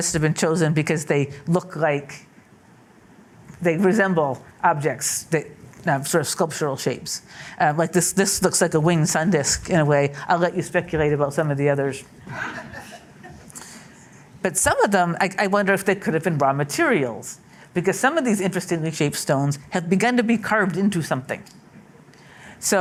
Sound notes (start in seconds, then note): 12.3 laughter